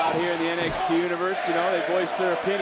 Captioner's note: crowd chants "baron corbin"